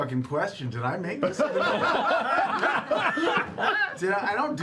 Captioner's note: laughter